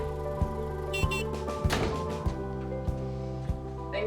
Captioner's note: car horn beeps